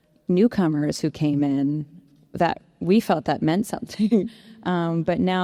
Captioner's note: chuckles